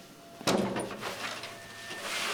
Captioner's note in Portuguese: Abrir de porta